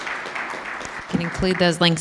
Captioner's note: applause